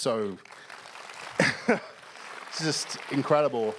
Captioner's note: applause